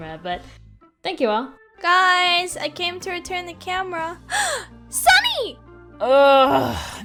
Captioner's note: gasp